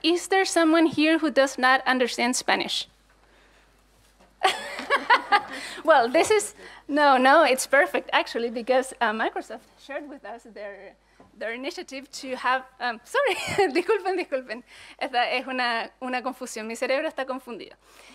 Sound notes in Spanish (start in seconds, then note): 6.2 Risas